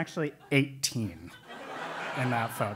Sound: laugh

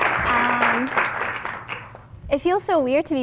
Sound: applause

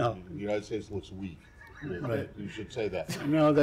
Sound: laughter

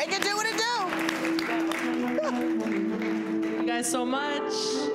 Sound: audience claps

